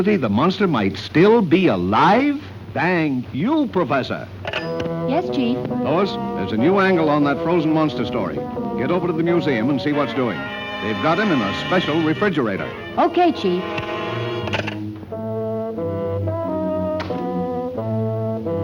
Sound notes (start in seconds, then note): 4.5 phone clanging; 14.4 phone clicking; 15.5 dramatic music